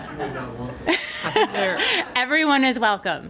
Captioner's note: laughter